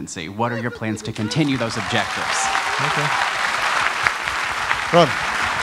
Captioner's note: applause